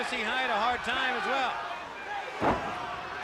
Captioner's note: crowd chatter